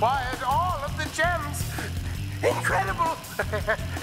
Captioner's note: laughs